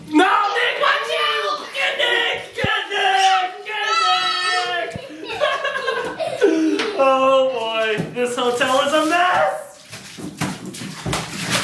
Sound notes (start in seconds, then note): 4.5 all yell and laugh; 9.8 splashes